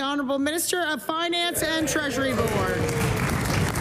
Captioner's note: applause